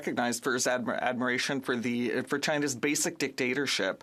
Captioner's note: speaking French